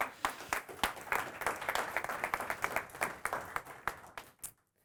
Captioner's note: audience applauding